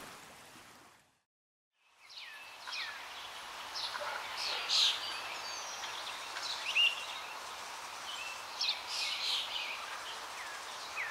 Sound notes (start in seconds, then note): 2.0 birds chirping